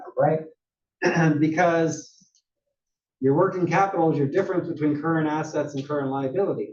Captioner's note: cough